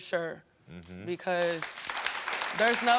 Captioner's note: audience applauding